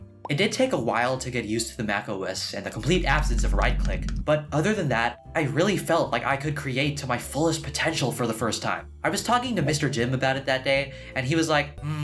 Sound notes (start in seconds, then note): none